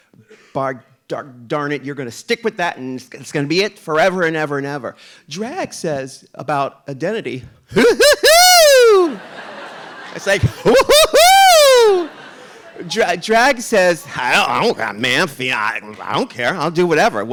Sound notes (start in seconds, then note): 8.9 audience laughing